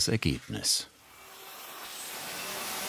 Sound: high whirring sound

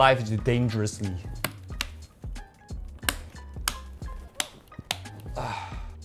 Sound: satisfying clicking noises

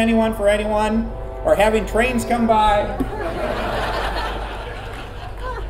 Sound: train horn. Laughter

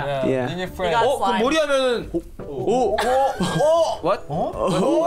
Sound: speaking in Korean

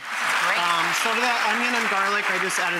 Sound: applause

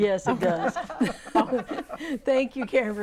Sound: laughing

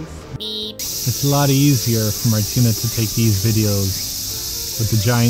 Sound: deafening cicada screams

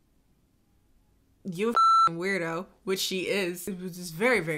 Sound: beep

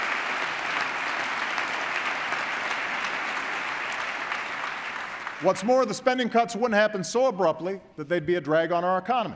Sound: applause

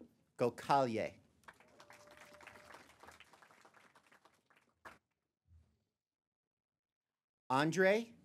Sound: applause

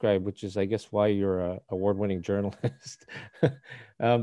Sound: laughs

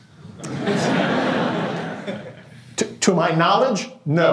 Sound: laughter

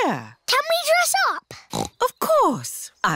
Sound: snorts

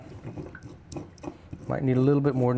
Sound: grinder rasping

